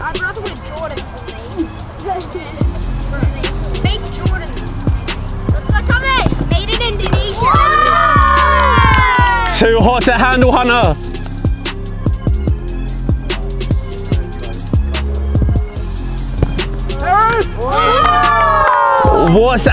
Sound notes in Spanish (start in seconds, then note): 0.0 música lenta de hip hop; 5.8 murmurando; 6.7 vítores de la multitud; 11.6 música lenta de hip hop; 16.8 vítores de la multitud